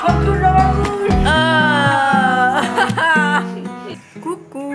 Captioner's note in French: Rires